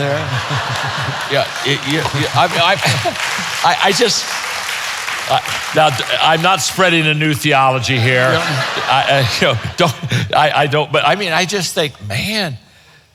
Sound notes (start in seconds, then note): 0.0 audience laughing; 2.4 audience applauding; 7.6 audience laughs